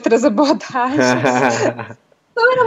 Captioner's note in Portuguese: Risos